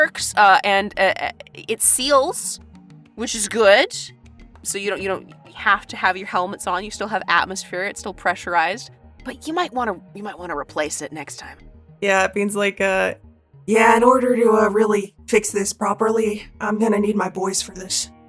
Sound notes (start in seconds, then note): none